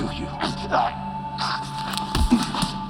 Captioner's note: gagging